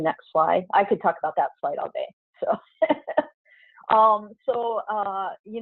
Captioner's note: chuckles